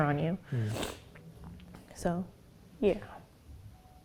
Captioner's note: sniffs